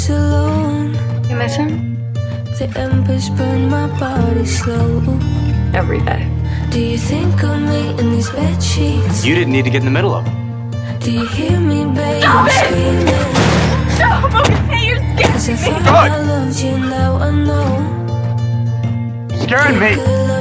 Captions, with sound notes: You miss him? Every day. You didn’t need to get in the middle of it. Stop it! [car door slams] [crying] Stop, okay? You’re scaring me! Good! You’re scaring me!